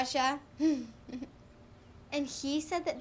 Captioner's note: Mayday chuckles